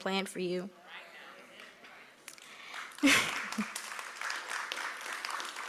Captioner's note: applause